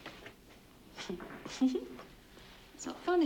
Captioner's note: laughing